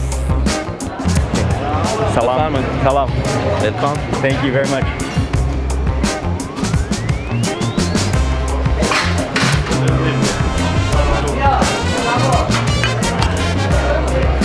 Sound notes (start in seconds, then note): 2.3 speaking in foreign language; 6.4 upbeat music